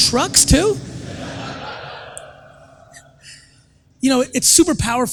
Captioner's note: audience laughs